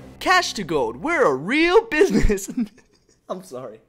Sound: breaks into laughter

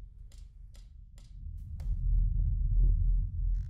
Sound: clicking sound

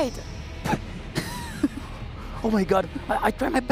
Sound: laughs

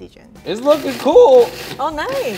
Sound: food processor whirs

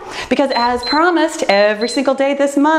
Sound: timer beeps

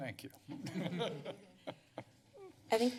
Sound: laughter

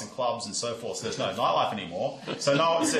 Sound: laughter

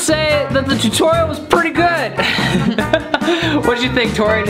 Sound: laughs

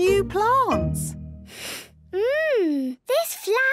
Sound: sniffs

